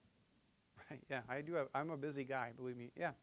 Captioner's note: chuckling